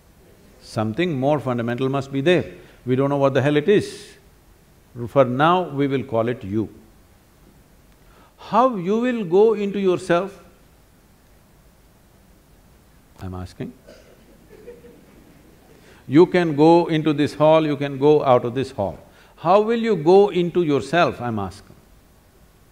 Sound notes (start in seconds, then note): 14.2 laughter